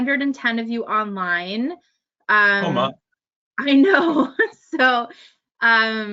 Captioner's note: laughs